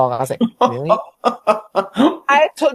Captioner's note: laughing